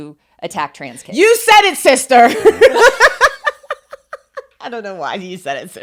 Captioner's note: laughs